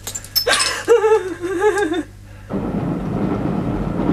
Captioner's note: woman sobbing